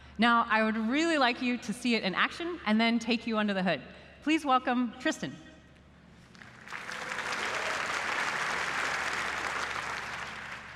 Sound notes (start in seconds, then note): 6.3 applause